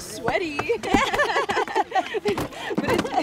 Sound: people laughing

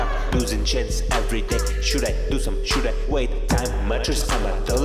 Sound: agh!!

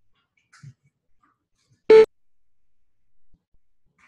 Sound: beep to indicate entering form

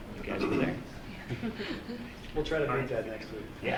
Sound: group laughing

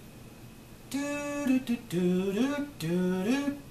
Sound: humming

